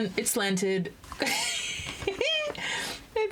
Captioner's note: laughs